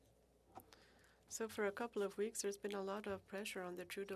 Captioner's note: speaking French